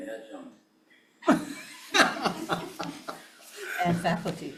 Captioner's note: everyone laughs